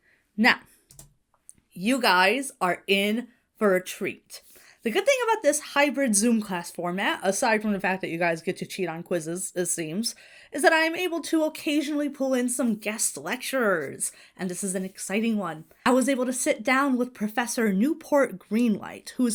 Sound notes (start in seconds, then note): none